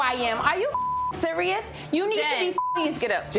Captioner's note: beep